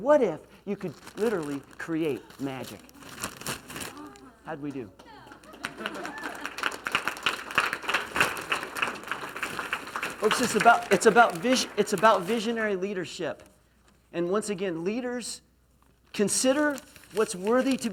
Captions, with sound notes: What if you could literally create magic? (gasps) How did we do? (applause) It's about visionary leadership. And once again leaders consider what's worthy